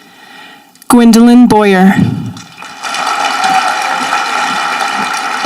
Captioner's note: audience applauding